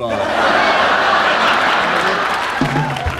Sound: audience laughing; upbeat music

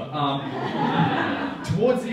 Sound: audience laughing

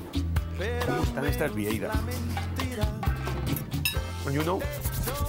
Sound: spanish

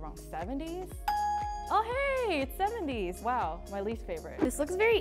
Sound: ding

